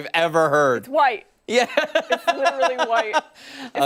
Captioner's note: laughter